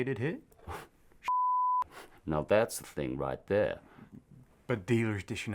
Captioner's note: scoffs